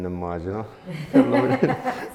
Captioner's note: laughs